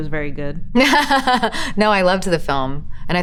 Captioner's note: Elizabeth laughs